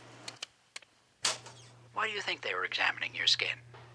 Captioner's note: play button clicks